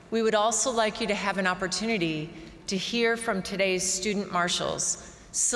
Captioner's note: none